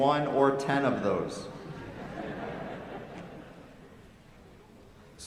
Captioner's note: laughter